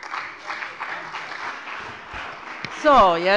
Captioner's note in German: Beifall bei der CDU und dem BÜNDNIS 90/DIE GRÜNEN